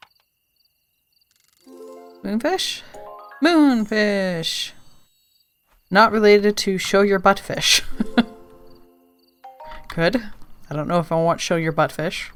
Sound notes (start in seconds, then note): 8.6 laughs